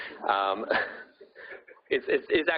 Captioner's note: audience laughing